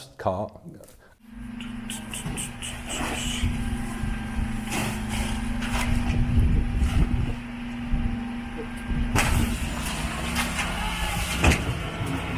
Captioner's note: truck compactor whirring